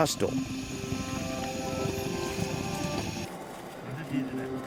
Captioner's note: chimes ringing